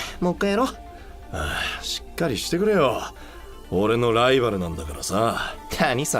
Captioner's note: sigh